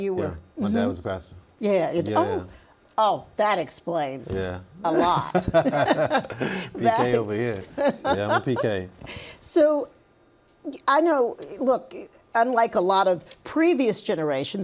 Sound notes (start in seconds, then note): 4.9 laughing